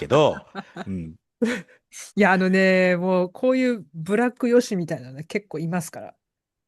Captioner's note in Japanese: 笑い